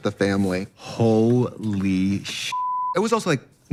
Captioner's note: beep